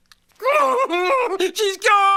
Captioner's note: grunts